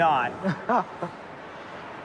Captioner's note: laughs